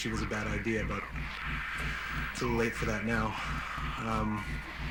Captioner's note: inhales deeply